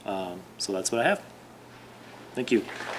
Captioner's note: audience applauds